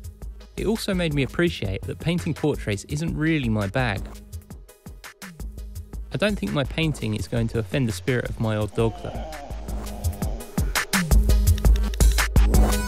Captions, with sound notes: It also made me appreciate that painting portraits isn’t really my bag. I don’t think my painting is going to offend the spirit of my old dog though. [dog whines]